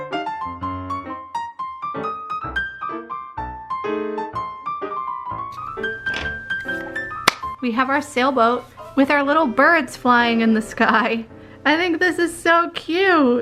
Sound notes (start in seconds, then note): 7.2 singular clap